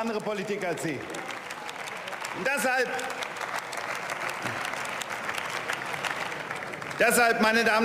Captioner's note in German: Beifall